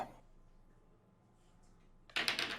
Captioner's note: dice rolling